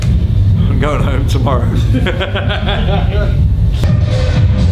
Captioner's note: laughs; booming electronic music